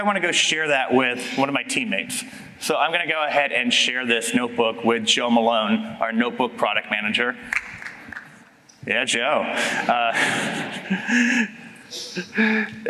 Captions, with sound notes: want to go share that with one of my teammates. So I'm going to go ahead and share this notebook with Joe Malone, our notebook product manager. [LIGHT CLAPPING] Yeah, Joe.